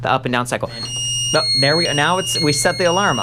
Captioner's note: beeping